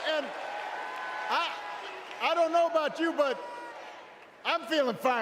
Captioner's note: cheers